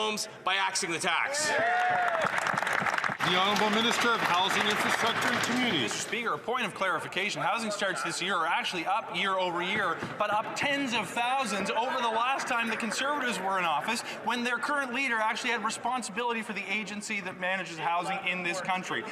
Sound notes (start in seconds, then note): 6.4 some Applause